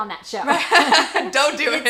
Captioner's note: both laugh